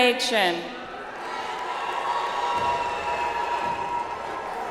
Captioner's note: audience applauds